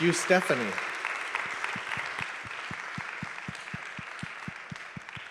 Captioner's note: audience claps